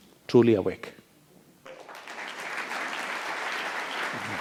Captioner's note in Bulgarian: Аплауси